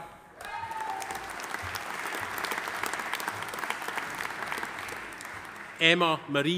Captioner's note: audience cheering; audience applauding